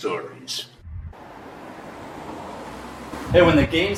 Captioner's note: traffic humming